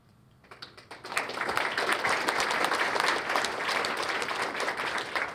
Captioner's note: applause